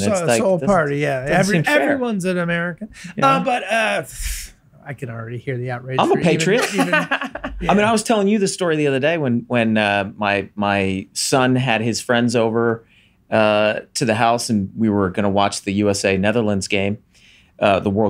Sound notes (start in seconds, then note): 2.9 sighs; 6.0 laughs